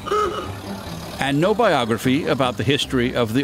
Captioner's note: car horn honks